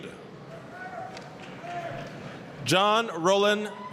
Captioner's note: applause, cheering